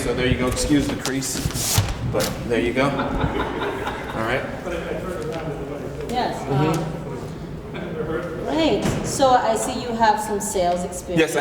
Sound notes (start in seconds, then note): 2.7 crowd laughs